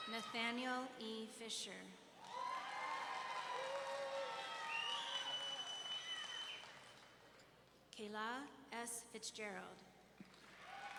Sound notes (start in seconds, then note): 2.2 audience cheering; 3.9 audience members whooping and whistling